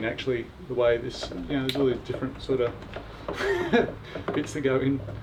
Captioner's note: laughing